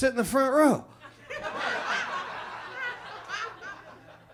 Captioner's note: audience laughs